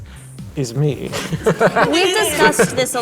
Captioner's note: all laughing